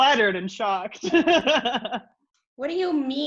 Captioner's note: laughs